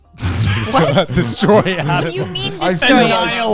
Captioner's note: laughing